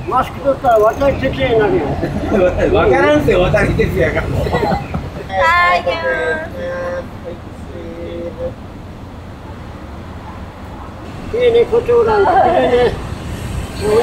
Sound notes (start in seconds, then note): 4.9 laughs